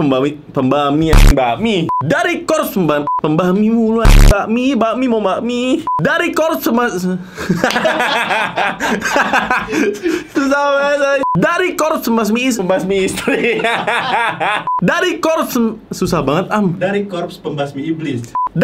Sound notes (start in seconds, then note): 7.4 laugh; 13.1 laugh